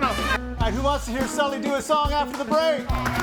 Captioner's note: audience applauds and cheers